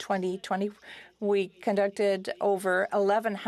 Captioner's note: speaking French